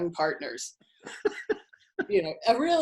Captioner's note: laughing